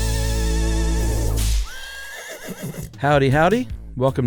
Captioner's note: horse neighing